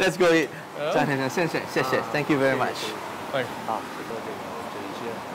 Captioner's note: speaking in Chinese